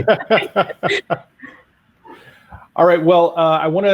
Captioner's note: laughing